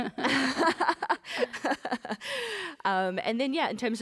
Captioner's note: laughter